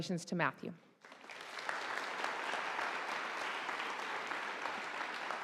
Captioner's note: audience applauding